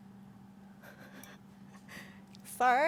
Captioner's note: quietly chuckling